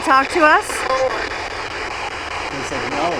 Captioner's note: electronic static hissing